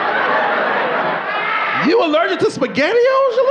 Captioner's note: audience laughing